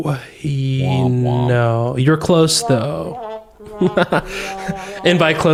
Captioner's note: whomp, whomp sound